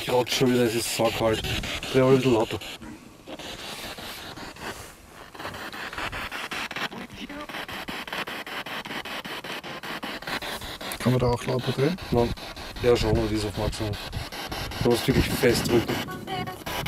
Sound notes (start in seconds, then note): 6.8 radio noise from the spirit box